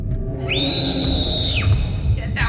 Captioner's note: screams